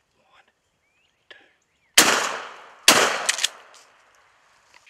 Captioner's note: gun shots